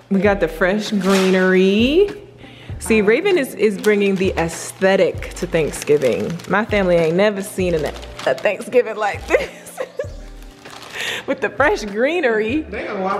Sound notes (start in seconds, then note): 9.2 laughs